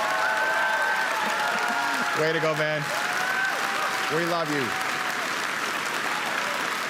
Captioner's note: applause and cheering